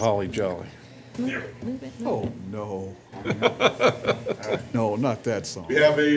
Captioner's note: laughter